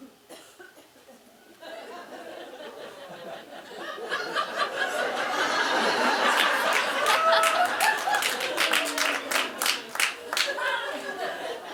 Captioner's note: audience laughing